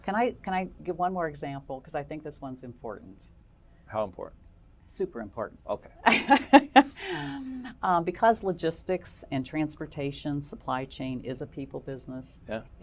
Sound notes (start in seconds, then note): 6.0 laugh